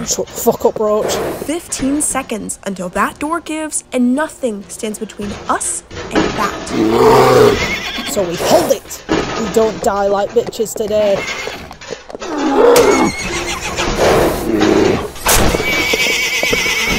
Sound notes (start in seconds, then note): 6.6 bear growls; 12.2 whinny; 12.2 growl; 15.7 whinny